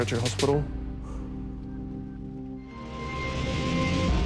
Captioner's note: inhales softly